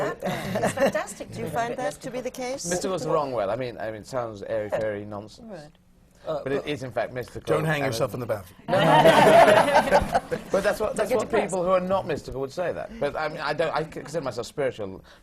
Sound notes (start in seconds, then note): 0.1 laughter; 8.7 laughter